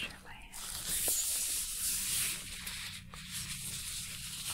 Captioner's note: glove sounds